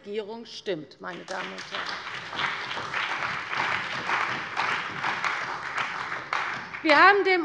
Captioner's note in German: Beifall bei der CDU und dem BÜNDNIS 90/DIE GRÜNEN